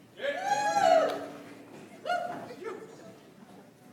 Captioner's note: audience applauds